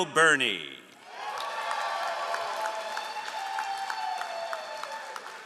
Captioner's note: all applauding